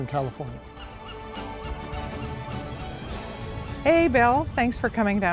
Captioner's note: seagulls squawk